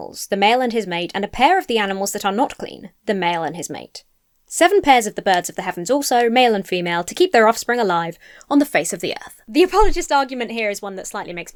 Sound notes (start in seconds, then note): none